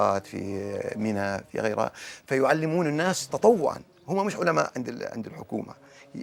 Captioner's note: speaking in Arabic